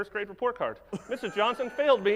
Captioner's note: laughs